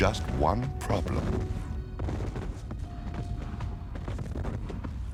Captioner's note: guns firing